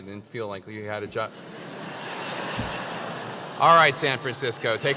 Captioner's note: laugh